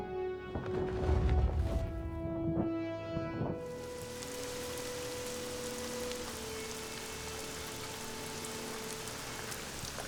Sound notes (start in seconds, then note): 0.6 feathers flap; 3.6 rain pours